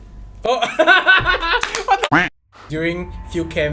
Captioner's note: laughs